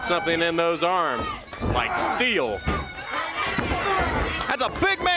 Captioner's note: crowd chatter